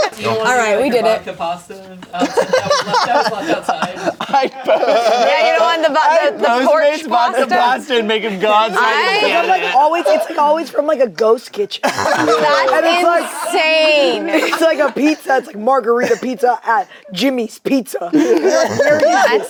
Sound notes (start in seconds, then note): 0.0 group laughs; 2.1 group laughs; 2.2 laughs; 11.8 laughs